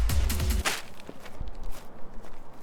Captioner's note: smashing of bag